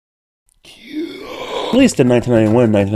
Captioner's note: 𝗕𝗜𝗚 inhale